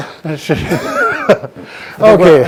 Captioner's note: chuckling in the background